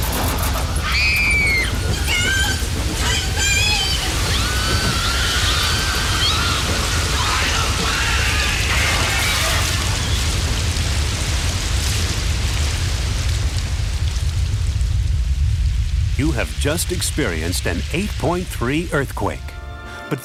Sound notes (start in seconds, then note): 0.8 screams; 4.1 crowd screams; 7.3 male Voice